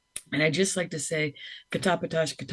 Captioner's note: speaks in foreign language